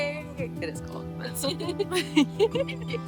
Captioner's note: laughter